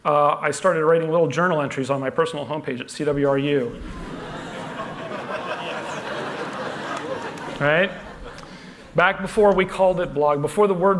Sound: laughter

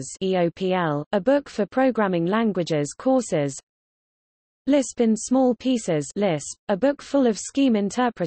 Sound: liSP

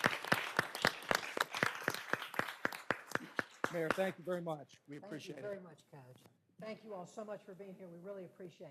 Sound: applause

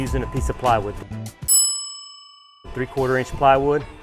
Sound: bell ringing

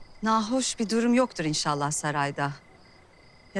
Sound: none

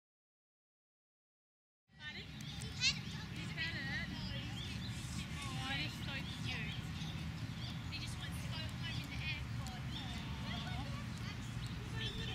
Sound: human voices, traffic noise and birds squawking in background

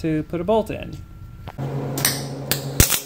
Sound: spark

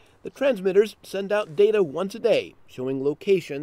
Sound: voiceover

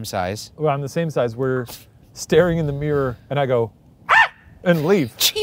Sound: screams

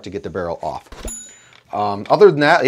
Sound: chiming

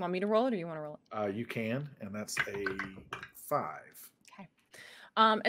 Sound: dice clacking

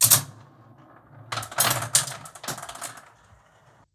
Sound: marbles rolling

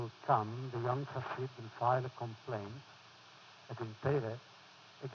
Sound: foreign language

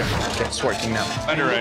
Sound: printer whirring

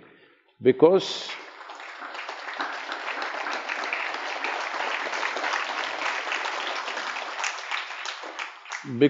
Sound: applause

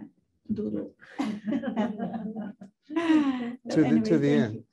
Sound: laughing

